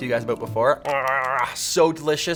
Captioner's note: chewing